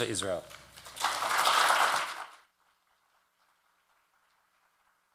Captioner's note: audience clapping